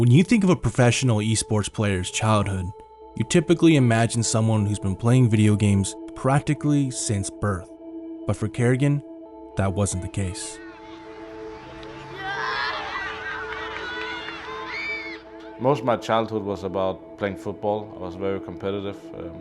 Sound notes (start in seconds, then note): 12.3 children shouting; 12.3 reflective music